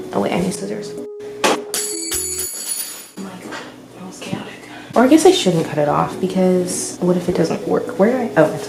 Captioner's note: loud metal sound